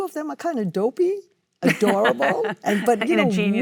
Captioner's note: Cate laughs